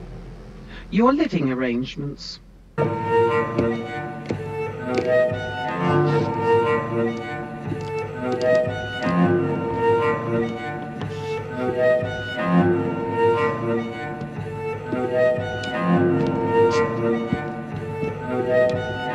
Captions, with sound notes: Your living arrangements. (discordant music) (footsteps plodding)